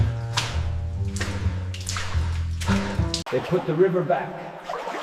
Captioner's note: water splashing; dirt scraping; water splashing